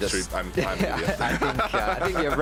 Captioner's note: laughs